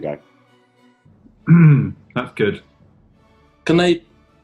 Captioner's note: clears throat